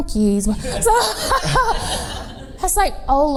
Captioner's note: laughs